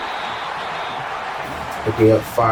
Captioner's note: crowd Noises